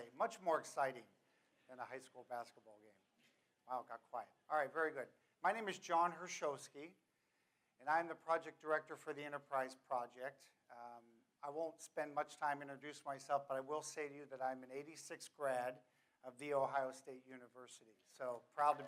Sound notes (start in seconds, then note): none